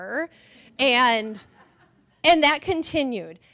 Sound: laughter

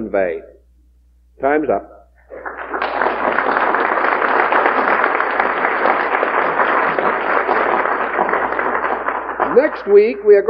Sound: applause

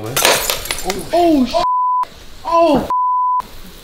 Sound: beep

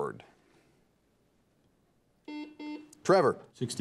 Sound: buzzer beeps

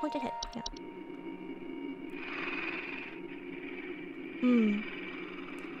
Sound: creepy gnome breathing

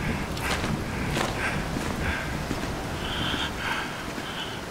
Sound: footsteps

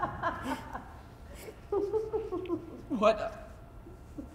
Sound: laughing

